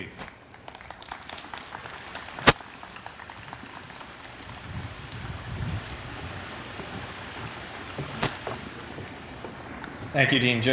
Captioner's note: applause